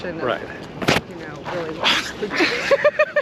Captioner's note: branch hits camera; Nicole laughing